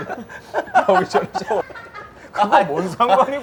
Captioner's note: laughing